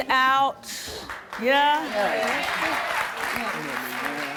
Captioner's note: applause